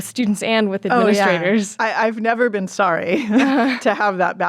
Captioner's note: chuckles